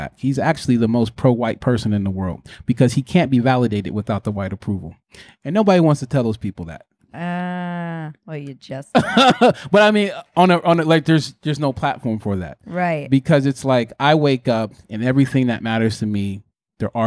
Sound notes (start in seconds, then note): 9.0 laughing